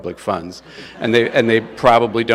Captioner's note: attendees laugh